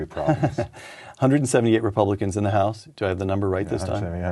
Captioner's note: laughter